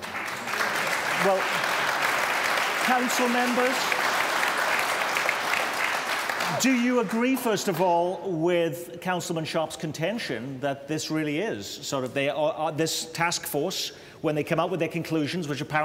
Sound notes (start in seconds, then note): 7.8 applause